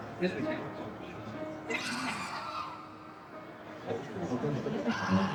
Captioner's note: screams